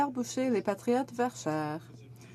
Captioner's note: speaking in french